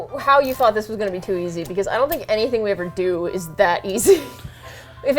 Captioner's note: laughs